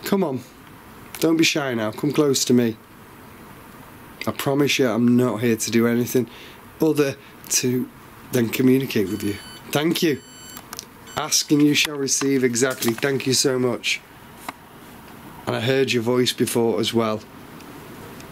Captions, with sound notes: Come on. Don't be shy now, come close to me. I promise you, I'm not here to do anything other to, than communicate with you. (sensor beeps) Thank you. Ask and you shall receive. Exactly. Thank you so much. And I heard your voice before as well.